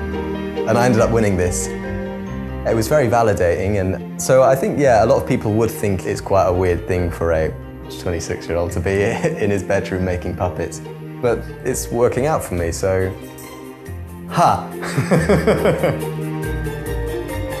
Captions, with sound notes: And I ended up winning this. It was very validating, and so I think, yeah, a lot of people would think it is quite a weird thing for a 26-year-old to be in his bedroom, making puppets, but it's working out for me, so, hah! (laughing)